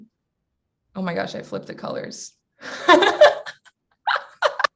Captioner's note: laughs